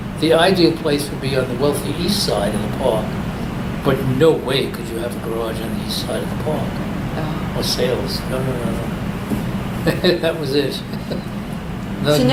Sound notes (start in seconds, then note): 9.8 laughs